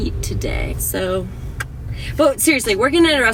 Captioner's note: tongue clicks